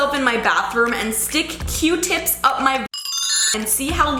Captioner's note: chiming